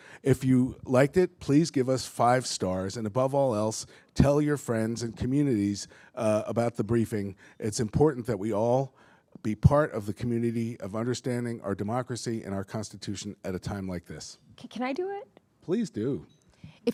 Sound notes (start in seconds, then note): none